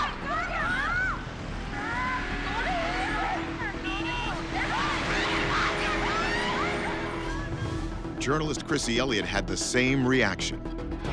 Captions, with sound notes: (horn honking) Journalist Krissy Eliot had the same reaction.